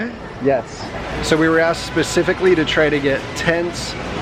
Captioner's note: none